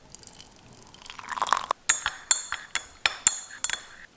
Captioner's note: water splashing; spoon clangs